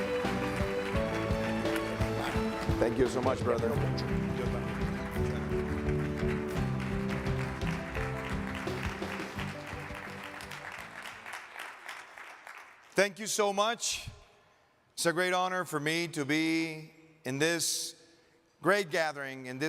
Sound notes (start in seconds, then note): 4.2 men speaking softly; 7.1 audience clapping